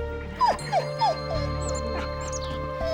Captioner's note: whimpers